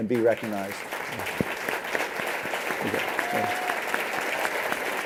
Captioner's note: applause